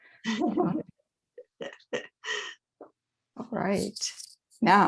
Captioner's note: laughs